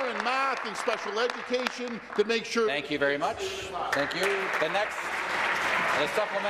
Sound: applause

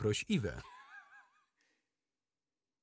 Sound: laughing

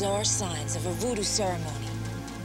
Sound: voiceover

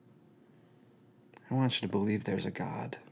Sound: none

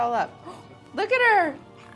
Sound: gasps

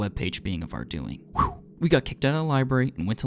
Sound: whew

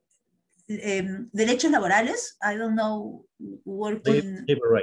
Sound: spanish

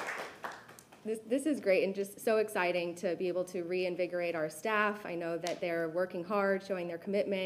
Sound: applause

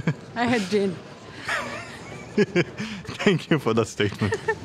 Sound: laughing

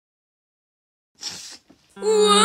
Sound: sniffle

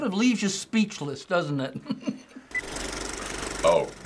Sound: chuckles; movie reel clicks

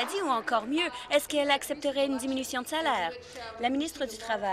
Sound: applause

